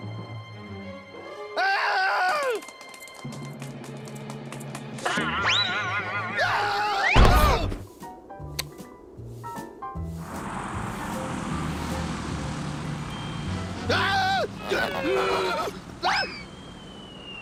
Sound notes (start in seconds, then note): 1.5 yells; 5.5 screams, groans; 13.8 groaning; 13.8 screams